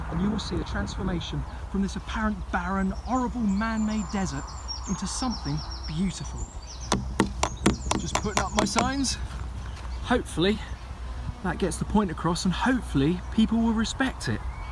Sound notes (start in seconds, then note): 6.9 banging